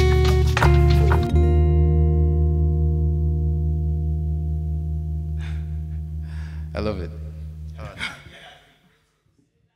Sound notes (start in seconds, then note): 7.7 chuckles